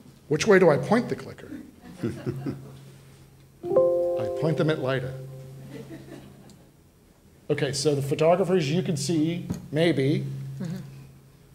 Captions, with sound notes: Which way do I point the clicker? (laughter) (Ding sound) I point them at Lida. (audience laughs) Okay, so the photographers, you can see, maybe.